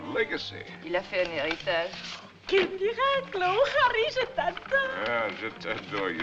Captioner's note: French